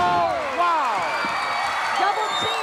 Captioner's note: audience cheering